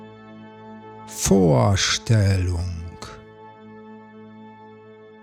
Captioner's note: german